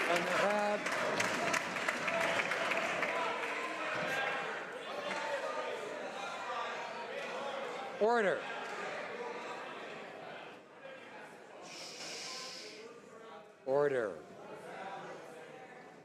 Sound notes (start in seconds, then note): 3.4 some Applause